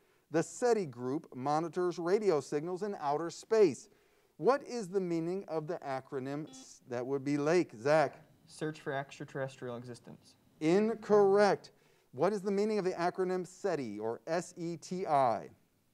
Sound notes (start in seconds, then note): 6.4 buzzer sounds